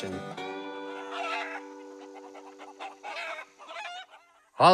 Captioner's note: chickens squawk